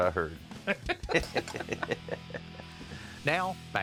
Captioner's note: both laugh